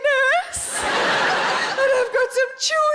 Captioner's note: audience laughing